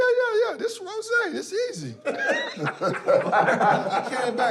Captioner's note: laughter